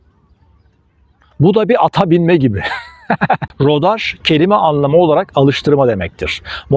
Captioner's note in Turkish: kahkaha